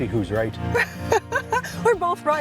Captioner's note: laughs